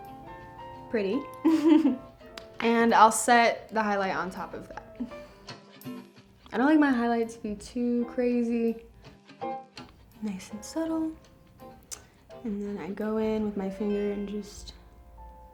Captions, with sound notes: Pretty. [laughs] And I'll set the highlight on top of that. I don't like my highlight to be too crazy. Nice and subtle. And then I go in with my finger and just, ooh.